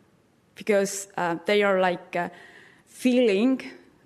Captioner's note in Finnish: none